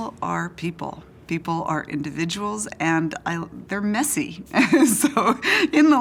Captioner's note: laughs